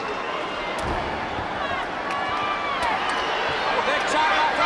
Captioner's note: crowd chatter